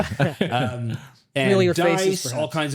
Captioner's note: both laughing